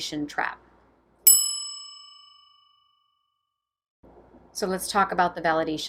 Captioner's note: bell dinging